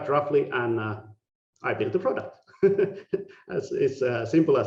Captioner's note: laughing